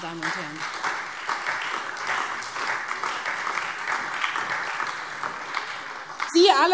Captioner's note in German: Beifall SPD und Freie Demokraten